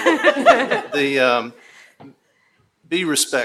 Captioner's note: attendees laughing